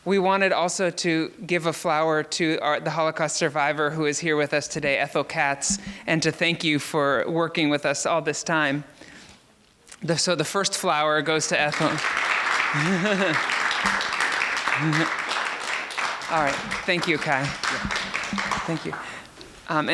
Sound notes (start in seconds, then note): 12.2 applause; 12.7 laughs